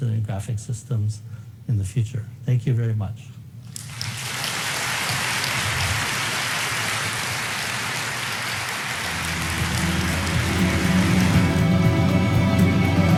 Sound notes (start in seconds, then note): 3.9 audience applauding; 9.0 upbeat music